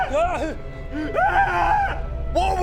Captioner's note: bigger_scream.wav